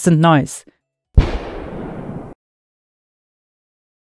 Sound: gunshot

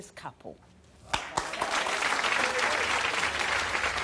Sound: audience applause

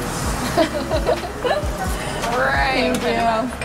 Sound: laughing

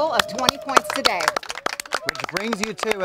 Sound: all applauding

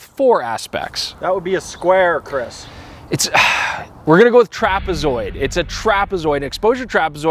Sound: sigh

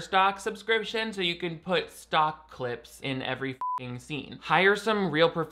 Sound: beep

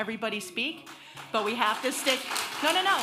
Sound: audience applauding

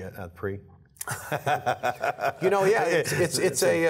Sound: laughter

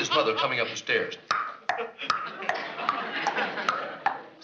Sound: clicking

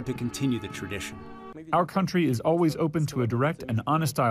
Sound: through translator

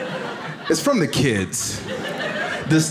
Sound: audience laughs

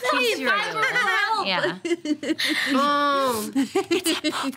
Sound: laughter drowns out conversation

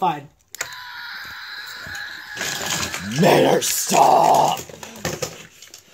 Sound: screaming

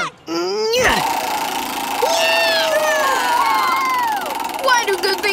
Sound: groaning; wheel spinning

